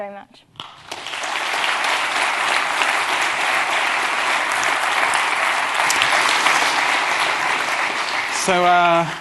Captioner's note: applause